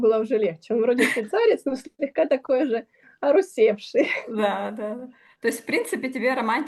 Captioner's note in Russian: смех